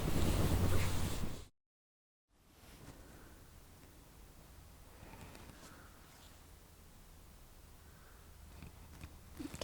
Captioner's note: silence in the background